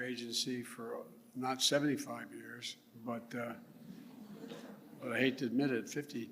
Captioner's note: laughs